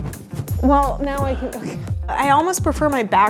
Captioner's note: laughing